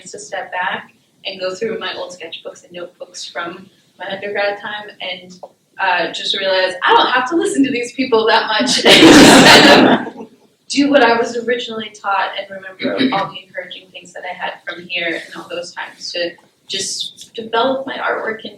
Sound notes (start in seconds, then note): 8.7 laughter